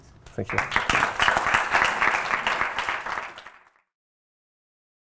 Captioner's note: applause